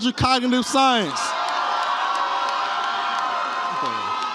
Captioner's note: audience cheers